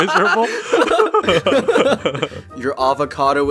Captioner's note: laughing